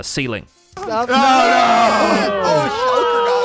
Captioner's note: everyone shouting in battle